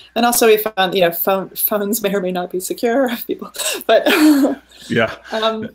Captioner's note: laughing